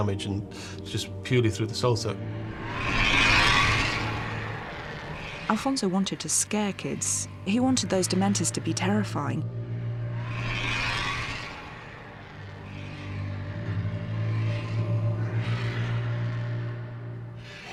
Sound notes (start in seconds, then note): 2.2 dementors shrieking